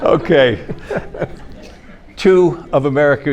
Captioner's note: everyone laughing; panelist laughs